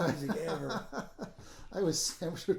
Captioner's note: laughing